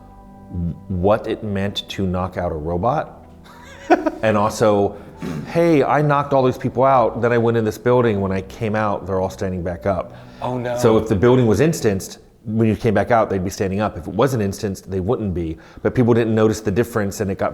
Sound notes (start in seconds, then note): 3.5 laughing